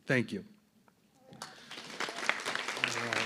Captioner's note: applause